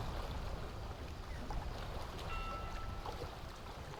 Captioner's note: water lapping